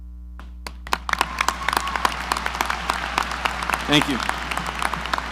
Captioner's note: audience applauding